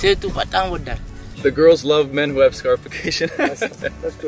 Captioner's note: laughs